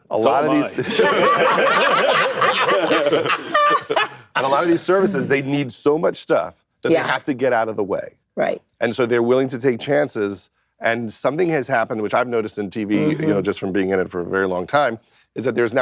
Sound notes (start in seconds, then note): 0.7 laughter